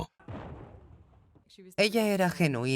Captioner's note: explosion booms